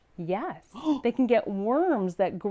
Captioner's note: gasps